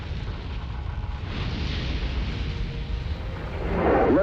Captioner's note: engine roaring